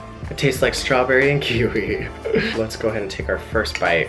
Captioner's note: chuckles